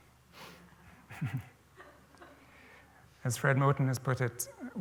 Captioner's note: laughter